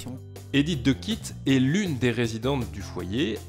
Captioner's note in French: Voix off